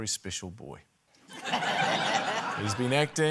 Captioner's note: laughter